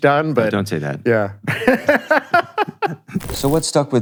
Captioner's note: laughs